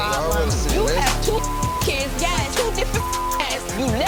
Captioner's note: beep